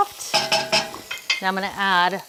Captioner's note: spoon clanging